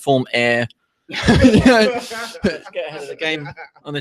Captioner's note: laughter erupts